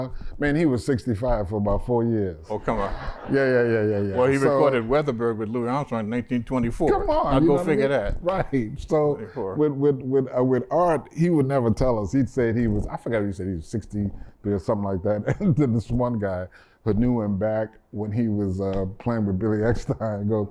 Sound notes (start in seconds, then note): 15.2 laughter